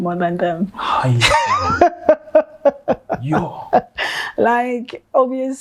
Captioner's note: laughing